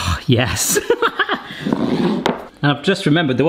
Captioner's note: laughs